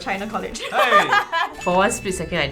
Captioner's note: laughs